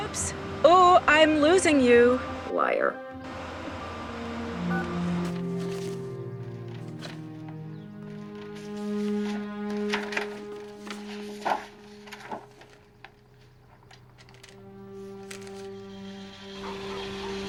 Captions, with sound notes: - Oops, ooh, I'm losing you. - Liar. (phone beeping) (soft music)